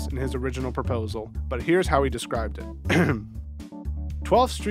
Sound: ahem

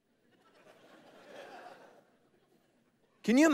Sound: congregation laughing

